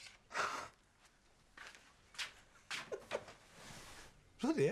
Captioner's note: Loz chuckles